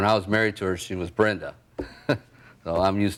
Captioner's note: laughing